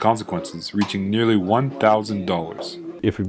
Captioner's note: ping pong ball crash